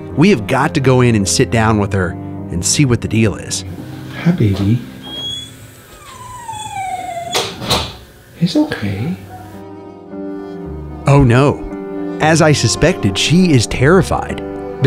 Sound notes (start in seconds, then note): 5.0 dog whining; 8.4 somber music